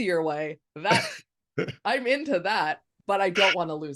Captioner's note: laughing